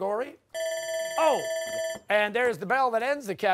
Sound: bell ringing

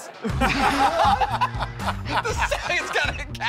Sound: laughter

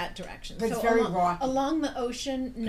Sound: voiceover

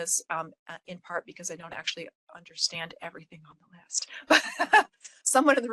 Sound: laugh

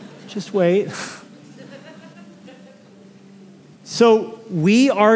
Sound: laughter

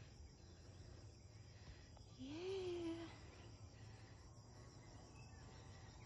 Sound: sobs again

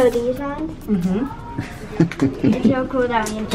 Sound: laughing

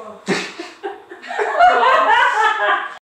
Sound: laughs

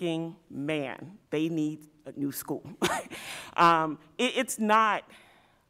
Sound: chuckle

